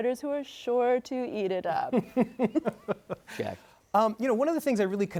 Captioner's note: laughing